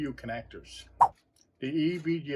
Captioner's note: swipe sound